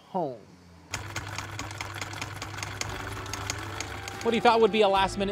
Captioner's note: machine whirring